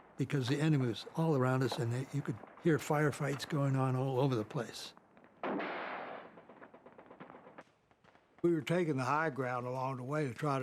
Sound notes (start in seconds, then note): 5.0 gunfire